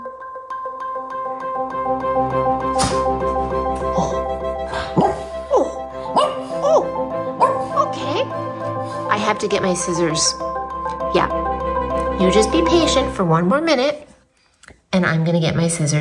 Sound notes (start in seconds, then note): 6.1 dog barks